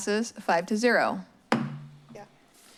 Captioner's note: strikes gavel